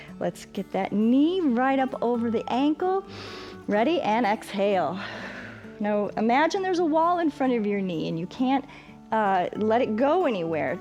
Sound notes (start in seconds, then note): 3.1 inhales; 4.9 exhales